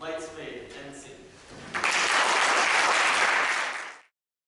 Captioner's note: applause